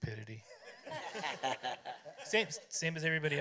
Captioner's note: laughter